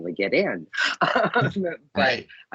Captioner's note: laughing